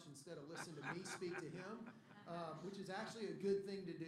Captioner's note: laughter